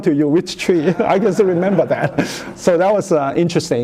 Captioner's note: laughter